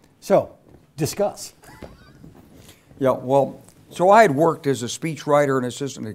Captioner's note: laugh